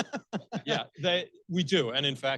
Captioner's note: laughing